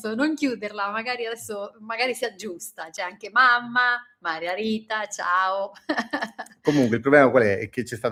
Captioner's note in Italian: risate